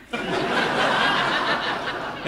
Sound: laughter

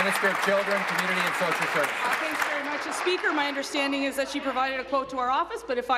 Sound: applause

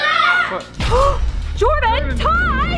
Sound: gasping

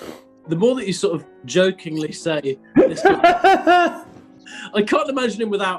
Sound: laughing

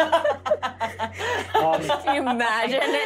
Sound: laughing

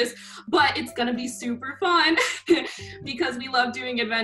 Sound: giggles

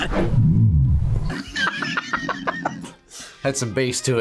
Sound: burps; laughs

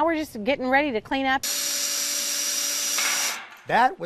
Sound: drill drilling

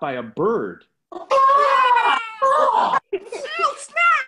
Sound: shrieking

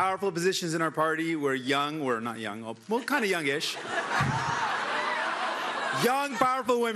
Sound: cheering

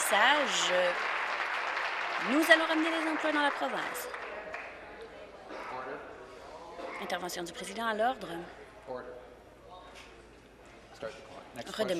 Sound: applause

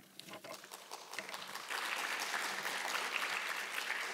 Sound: audience applauding

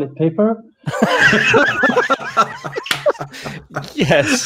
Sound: laughs

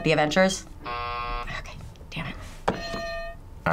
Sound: hitting bell; buzzer; hitting bell

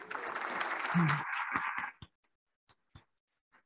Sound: applauding

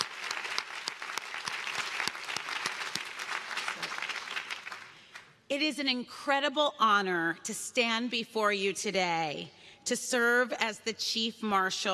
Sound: cheers and applause

